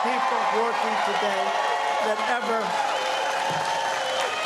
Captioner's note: cheers and applause